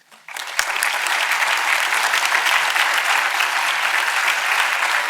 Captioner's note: audience applauding